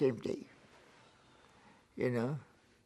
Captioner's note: sighs